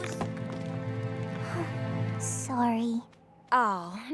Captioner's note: sighs